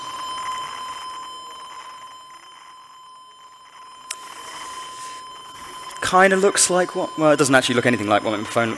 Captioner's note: screeching electronic sound